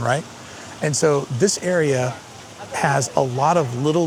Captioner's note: water feature flowing